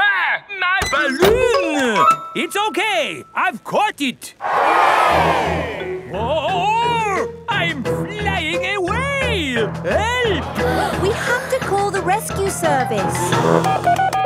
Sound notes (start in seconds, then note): 4.4 crowd cheers; 14.1 beeping